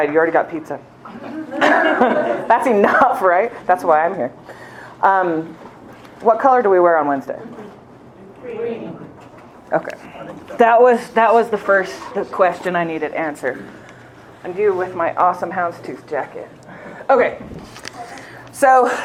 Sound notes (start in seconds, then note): 1.1 laughter